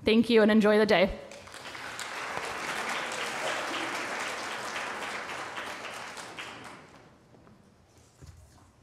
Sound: applause

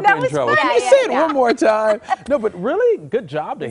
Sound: laughter

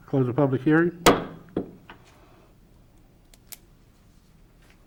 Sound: gavel pounding

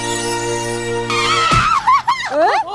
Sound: thud

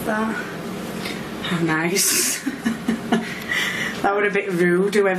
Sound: laughs

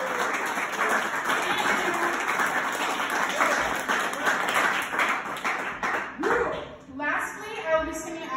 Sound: clapclapclapclapclapclap; wooooooooooo

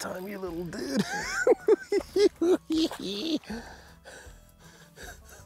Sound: laughing

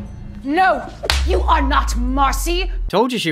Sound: slap

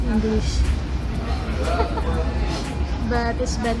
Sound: laughing

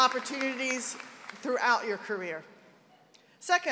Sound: applause

